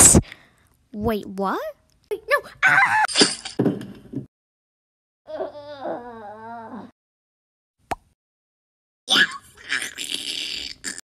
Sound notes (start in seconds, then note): 0.0 gasp; 3.6 thud